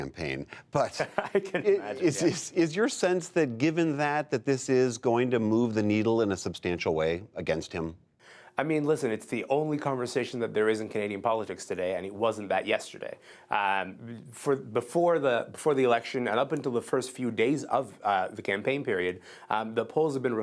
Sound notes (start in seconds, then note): 0.8 laughter